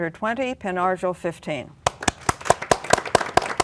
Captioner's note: applause